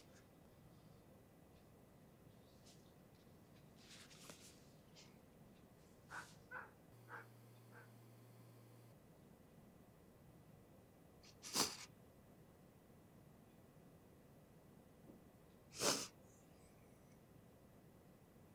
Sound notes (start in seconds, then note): 11.3 sniffles